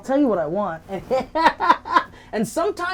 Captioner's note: laughing